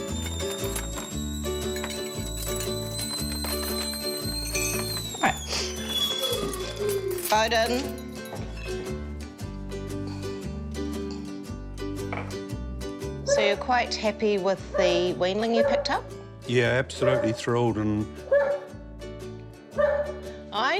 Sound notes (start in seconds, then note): 4.4 whistle dies down; 5.4 sniffles; 5.7 dog whines; 18.2 dog barks